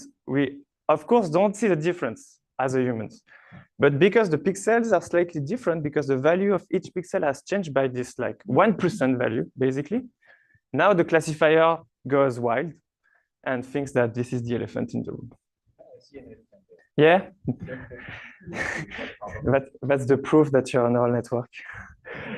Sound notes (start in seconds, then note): 18.4 laughter